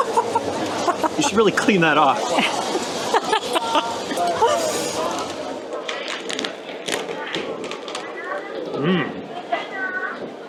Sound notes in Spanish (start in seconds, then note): 0.0 Riendo